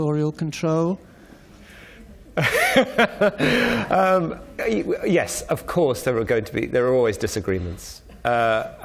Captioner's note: laughs